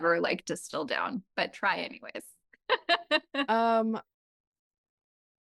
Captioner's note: laughs